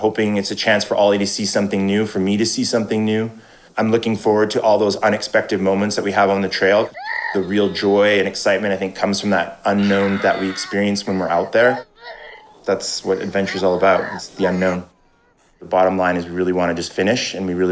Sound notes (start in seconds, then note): 6.7 crying